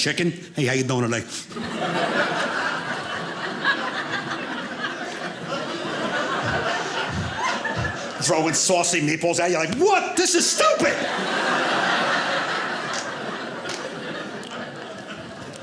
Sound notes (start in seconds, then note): 4.1 audience laughing; 12.2 audience laughing